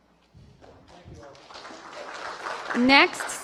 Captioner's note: applause